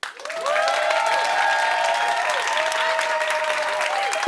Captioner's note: audience applauding